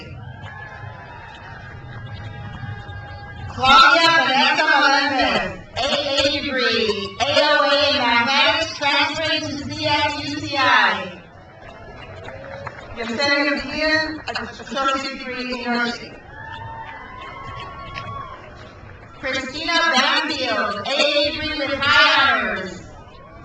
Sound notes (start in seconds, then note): 0.0 crowd cheers; 9.8 crowd cheers; 16.0 crowd cheers; 22.1 crowd cheers